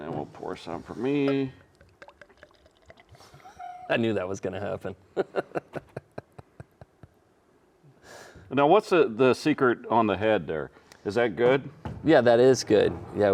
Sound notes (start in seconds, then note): 2.5 bottle pouring; 5.1 chuckling